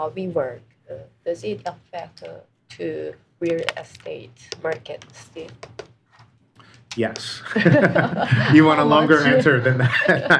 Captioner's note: laughter